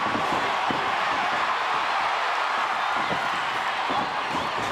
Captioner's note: audience cheers